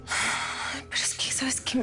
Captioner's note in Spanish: Suspiros